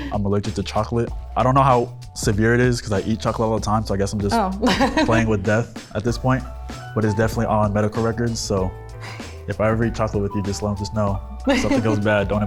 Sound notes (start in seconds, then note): 0.0 laughs; 4.4 laughs